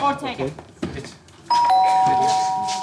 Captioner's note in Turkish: Zil çalar